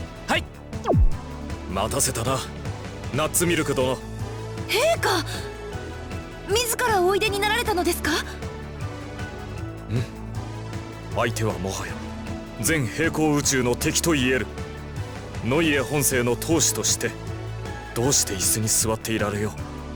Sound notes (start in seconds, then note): 10.0 affirming grunt